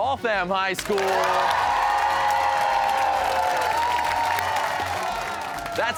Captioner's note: cheers and applause